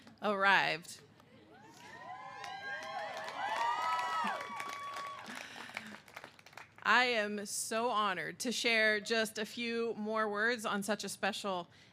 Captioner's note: cheers and applause